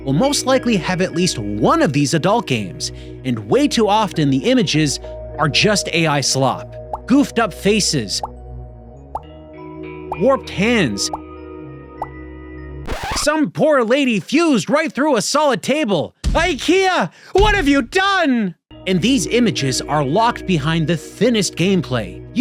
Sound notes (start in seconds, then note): 8.2 quiet popping; 12.9 pops